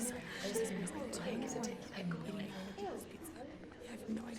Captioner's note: students chattering